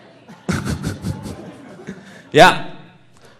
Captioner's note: laughing